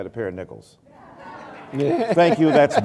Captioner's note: laughter